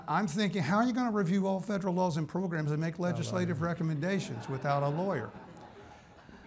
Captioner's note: laughs